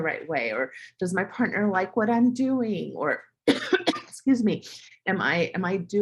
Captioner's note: cough